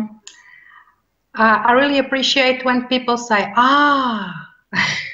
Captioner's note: chuckles